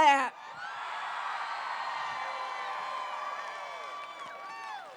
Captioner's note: applause